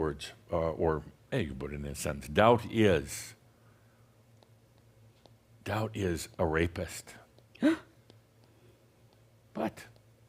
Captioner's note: gasps